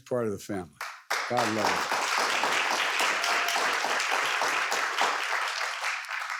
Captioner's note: audience applauding